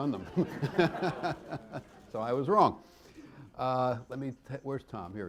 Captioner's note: laughter